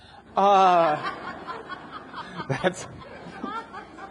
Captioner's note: audience laughs